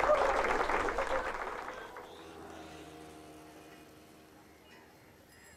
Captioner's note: applause; clock ticking